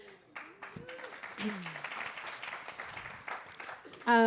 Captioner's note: applause